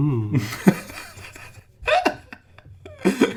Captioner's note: laughing